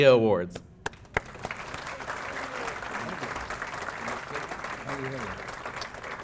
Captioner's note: applause